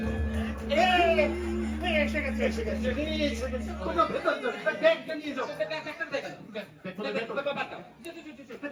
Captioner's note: gong sound. Someone is at the door